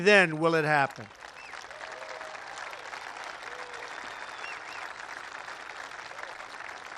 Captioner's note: applause